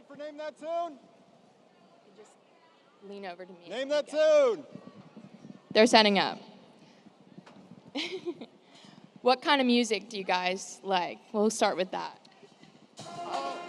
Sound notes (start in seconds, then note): 7.9 laughs